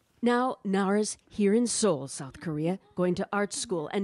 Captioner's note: speaking foreign language